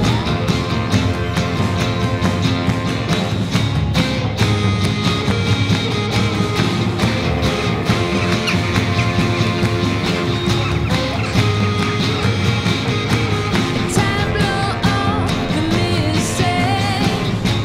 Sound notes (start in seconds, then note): 8.1 birds caw